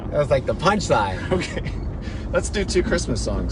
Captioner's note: laughs